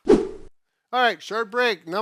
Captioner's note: whooshing